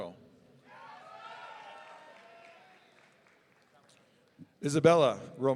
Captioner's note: audience cheering